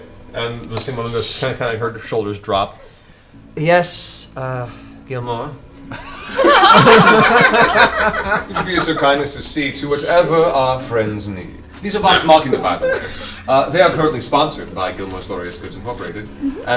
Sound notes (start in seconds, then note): 5.9 all laugh